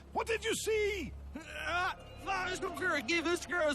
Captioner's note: Fiddleford groans; Fiddleford speaks gibberish